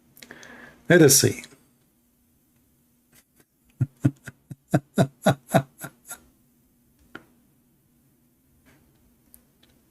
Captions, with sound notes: mari kita lihat [Ketawa]